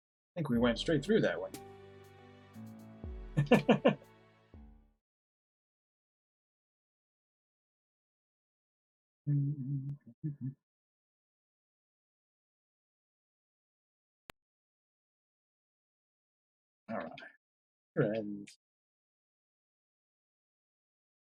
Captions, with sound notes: I think we went straight through that one. [chuckles] [humming] All right. "Friends~!"